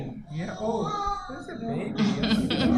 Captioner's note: baby crying; laughter